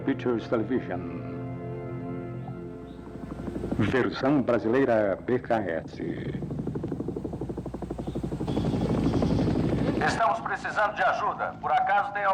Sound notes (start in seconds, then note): 2.3 helicopter Blades Whirring